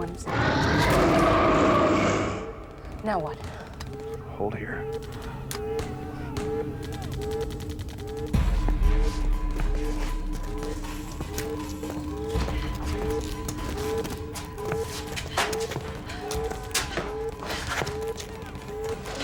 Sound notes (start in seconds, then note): 0.2 vampire roaring; 5.7 alarm blaring; 5.7 gunshots blasting